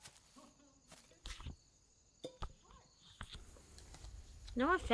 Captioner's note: papers rustling